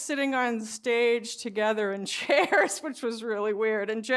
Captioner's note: laughs